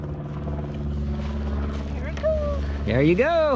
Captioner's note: plane engine roaring